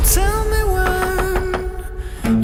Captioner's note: rapid knocking